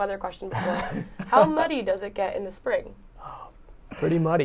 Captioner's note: laughter